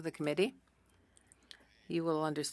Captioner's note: speaking French